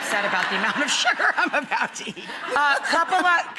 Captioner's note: laughter